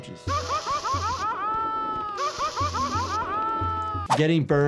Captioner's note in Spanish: Mario llora